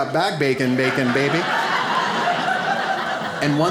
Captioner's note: audience laughs